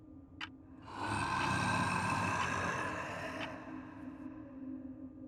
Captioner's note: voice growling; tense music